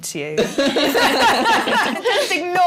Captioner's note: laughter